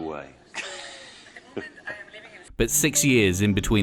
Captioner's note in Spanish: Risas